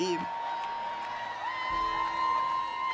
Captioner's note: cheering